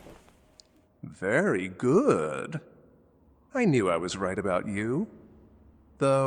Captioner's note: condescending